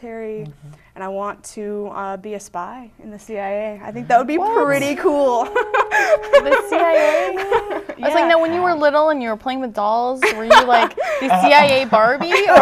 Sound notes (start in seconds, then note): 3.9 laughing; 10.2 laughter